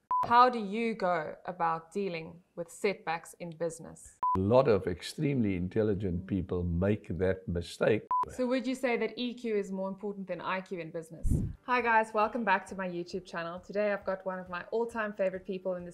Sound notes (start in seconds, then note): 0.1 screen beeping; 3.6 screen beeping; 8.0 screen beeping; 11.2 air whooshing